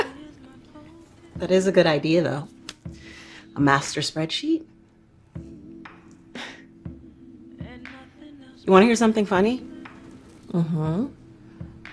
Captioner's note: laughter